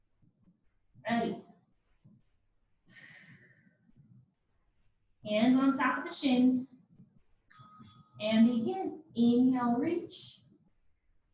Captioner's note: ding, ding